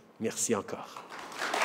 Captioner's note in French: Applaudissement